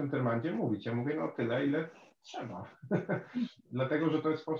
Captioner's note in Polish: śmiech